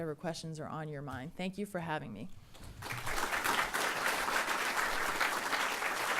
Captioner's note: audience applauding